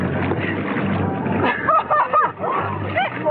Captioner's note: laughing